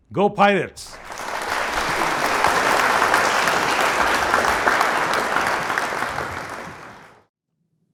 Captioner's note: applause